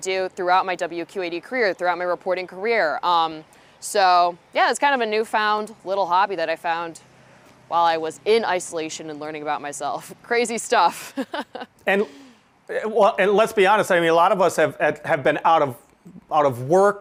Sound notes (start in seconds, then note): 10.9 chuckles